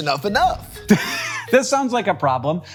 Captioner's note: Hank chuckles